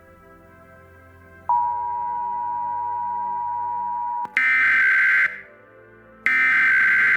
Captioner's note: beeps